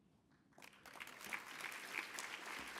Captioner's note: applause